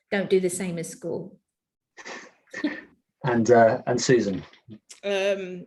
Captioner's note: chuckles